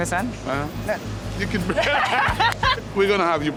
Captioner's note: laughs